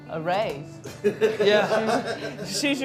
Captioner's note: laughing